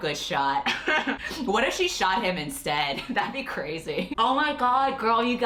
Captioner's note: laughs